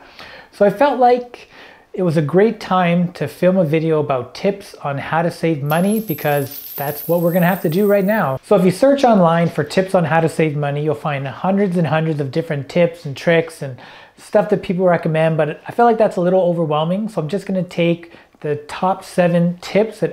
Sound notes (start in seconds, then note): 5.6 coins jingling